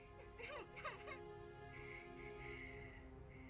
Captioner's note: crying; Olive crying